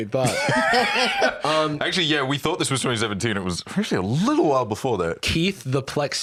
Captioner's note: laughs